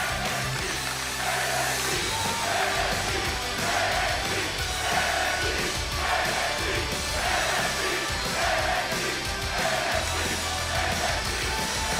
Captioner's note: crowd cheering